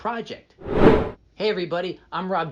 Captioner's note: air whooshing